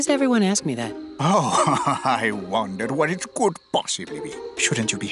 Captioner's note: laughing